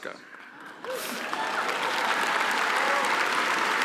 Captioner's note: applause